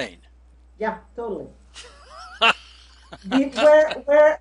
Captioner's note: laughing